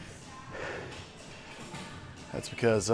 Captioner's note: heavily breathing